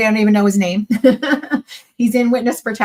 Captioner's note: laughs